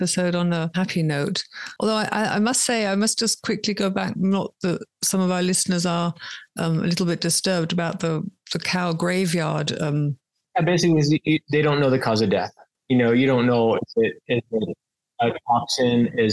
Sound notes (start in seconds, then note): none